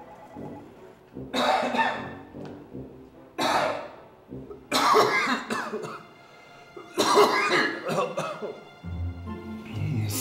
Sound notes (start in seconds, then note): 0.0 phone ringing; 4.0 coughing